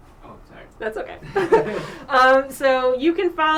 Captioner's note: laughter